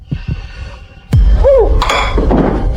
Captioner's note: gagging